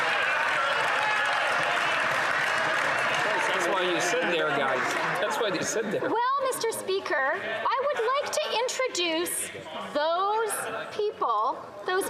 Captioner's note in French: applaudissements